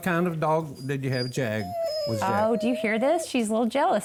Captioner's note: dog whines